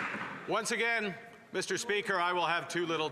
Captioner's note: cheers & Applause